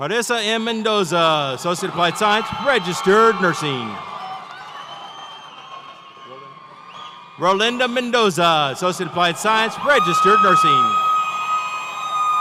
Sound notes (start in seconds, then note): 4.5 audience cheers